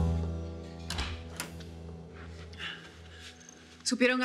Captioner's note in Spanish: ruido al abrir la puerta